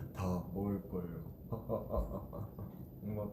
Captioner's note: laughing out loud